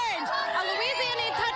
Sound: cheering

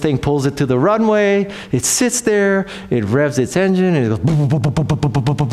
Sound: sputters

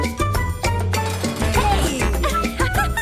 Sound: laughing

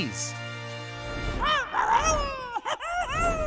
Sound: squealing

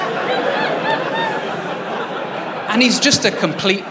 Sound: laughter

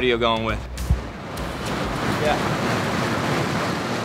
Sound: machine whirring

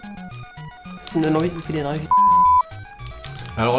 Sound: bip

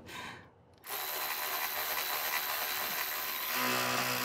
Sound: tool whirring

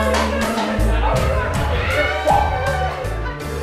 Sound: chimpanzee noises

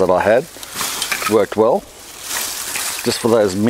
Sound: foliage rustles

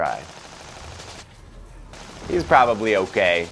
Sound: rapid gunfire

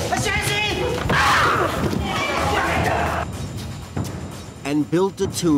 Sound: intense dramatic music; men yelling

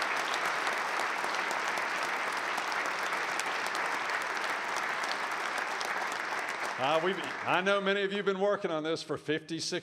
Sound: applause

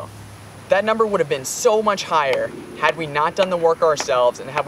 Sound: hammering noise

